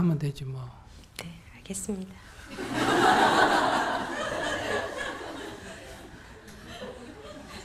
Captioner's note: audience Laughter